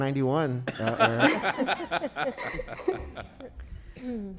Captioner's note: laughter